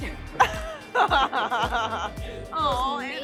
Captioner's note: laughing